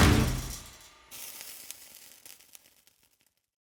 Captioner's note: sizzling